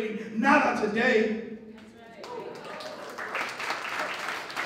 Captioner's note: applause